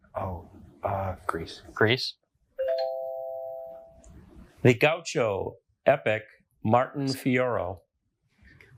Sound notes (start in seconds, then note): 2.6 bell dings